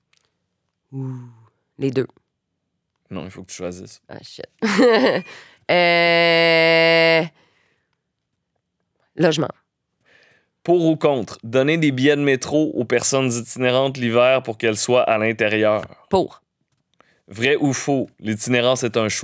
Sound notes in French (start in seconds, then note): 4.7 petits rires